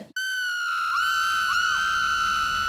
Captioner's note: woman screaming